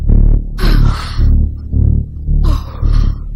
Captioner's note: exhales